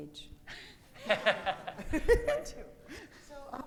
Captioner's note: audience laughing